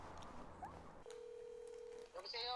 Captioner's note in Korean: 수화음